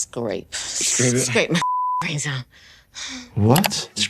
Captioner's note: beep